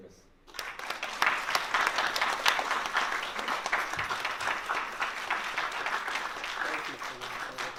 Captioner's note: applause